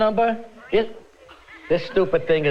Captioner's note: Furby babbling